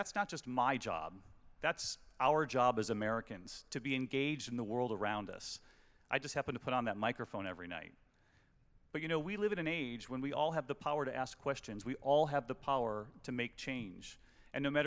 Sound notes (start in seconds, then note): none